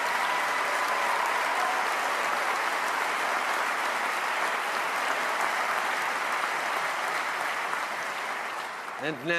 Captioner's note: cheers & applause